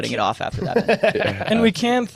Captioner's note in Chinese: 笑声